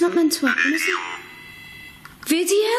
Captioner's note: OVILUS buzzing